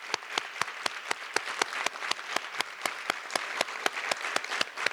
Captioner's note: audience applause